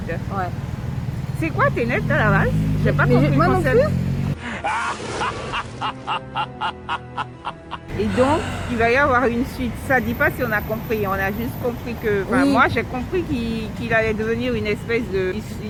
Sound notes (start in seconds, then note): 4.4 demonic laugh